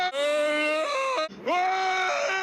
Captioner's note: yelling